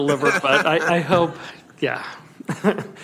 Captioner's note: some Laughter